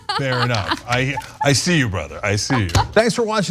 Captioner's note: laugh